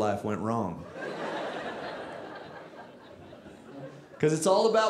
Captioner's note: audience laughing